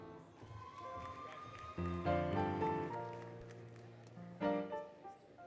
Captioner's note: applause, Cheering, Music